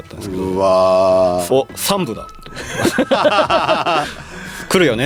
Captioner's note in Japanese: 笑い